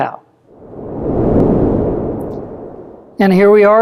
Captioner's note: transition whoosh